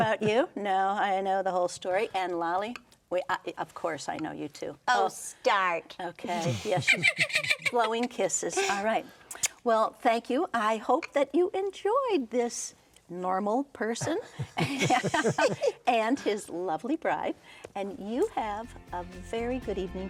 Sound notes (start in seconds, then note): 8.4 Lolly laughing; 16.6 all laughing